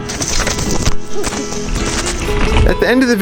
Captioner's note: crashing